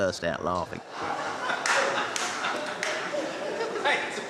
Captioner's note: all laughing